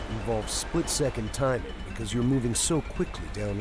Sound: voiceover

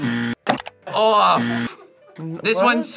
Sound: buzzer rings

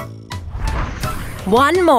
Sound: happy music; digital whooshing

